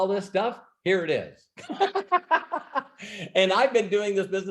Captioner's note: laughs